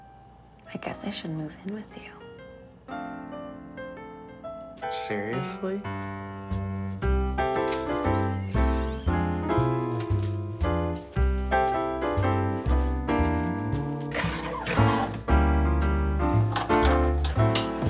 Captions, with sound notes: I guess I should move in with you. (cheerful jazz music) - Seriously? (door creaks)